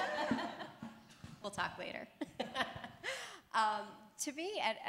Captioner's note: laughter